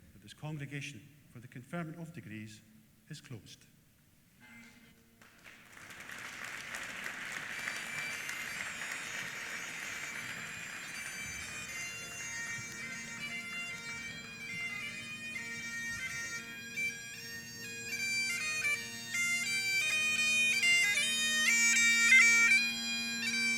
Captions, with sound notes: that this congregation for the Conferment of Degrees, is closed. (APPLAUSE) (BAGPIPES PLAY)